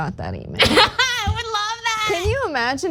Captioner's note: laugh